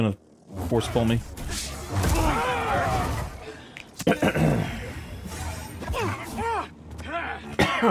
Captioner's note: clears throat